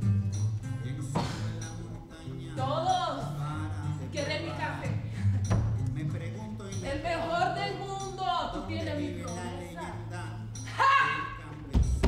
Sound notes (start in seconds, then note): 3.0 speaks in foreign language